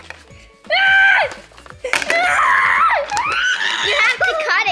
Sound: screaming

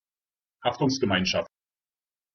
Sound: fast Pronunciation

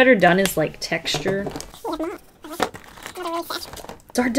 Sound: incoherent sped up chipmunk talk

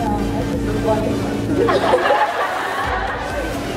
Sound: laughs

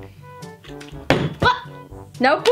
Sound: bottle landing

